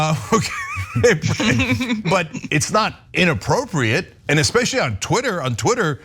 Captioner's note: laugh